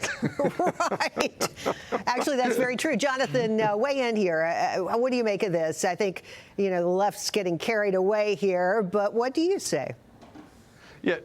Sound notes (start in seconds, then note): 3.3 laughter